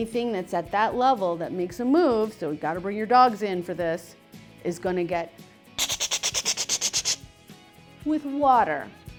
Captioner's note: sprinkler sound effects